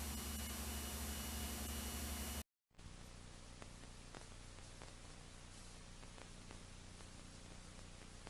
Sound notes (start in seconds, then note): 2.8 VHS static